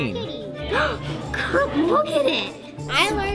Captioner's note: gasps